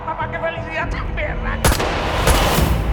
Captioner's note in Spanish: Disparos